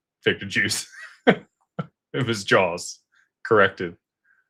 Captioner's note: laughter